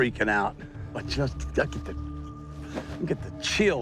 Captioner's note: stuttering